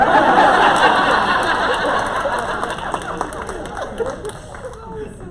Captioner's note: laughter